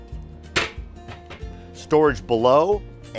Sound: panel clacks

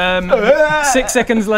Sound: aaaaaraaggah!

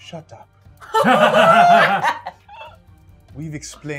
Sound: gamers laughing

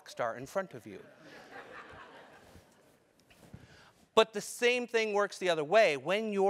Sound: laugh

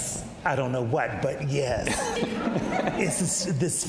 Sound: audience laughs

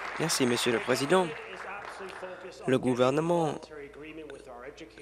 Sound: applause

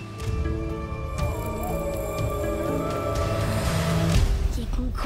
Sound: distant howling

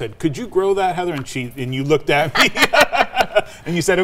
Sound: laughing

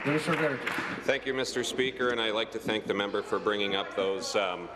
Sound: applause

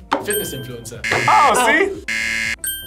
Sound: buzzer rings

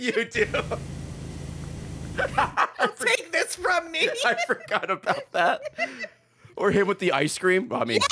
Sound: laughs

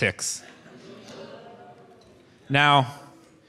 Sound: audience oohs

